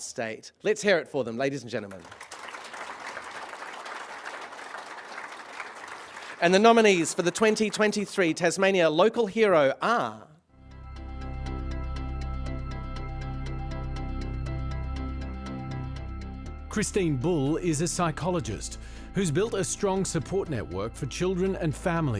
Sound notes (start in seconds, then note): 1.8 applause